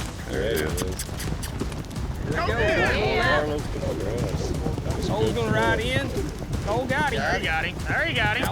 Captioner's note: all shouting